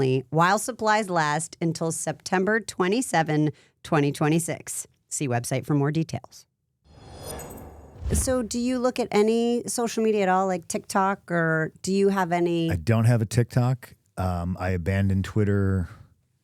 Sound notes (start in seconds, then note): none